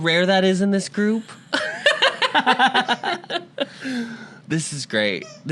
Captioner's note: laughter